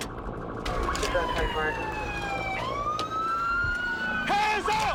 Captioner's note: sirens wailing